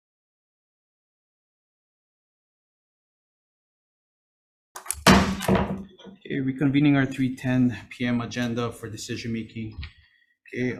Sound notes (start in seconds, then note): 4.9 gavel bangs